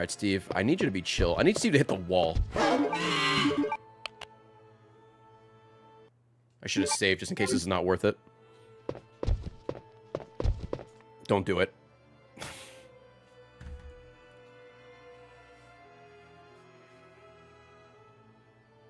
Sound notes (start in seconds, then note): 11.1 sighs